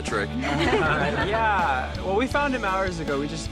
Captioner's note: laughter